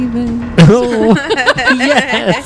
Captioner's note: laughs